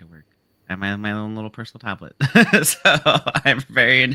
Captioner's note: laughs